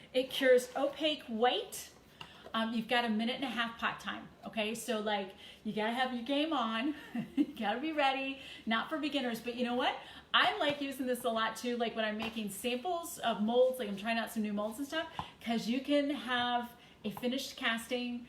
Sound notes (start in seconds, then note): 7.0 chuckles